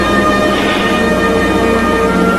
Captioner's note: sighs